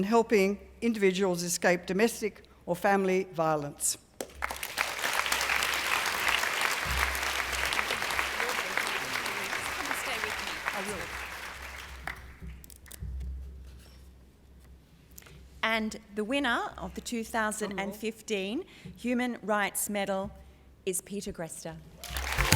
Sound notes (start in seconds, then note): 4.2 applause